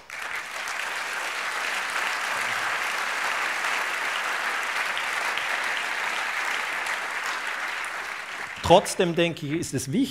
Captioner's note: applause